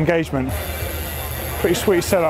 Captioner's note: whirring